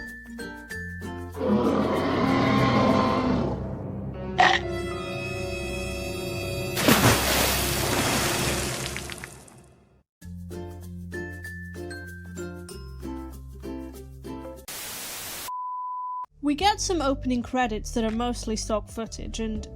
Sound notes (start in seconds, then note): 1.4 dramatic sting + bite sound + splash sound; 10.5 cheery music resumes